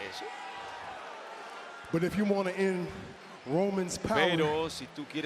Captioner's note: applause